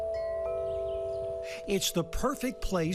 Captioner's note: chimes ringing